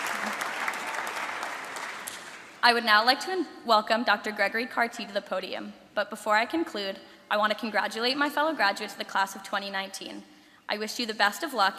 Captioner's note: applause